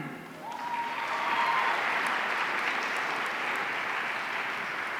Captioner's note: audience cheering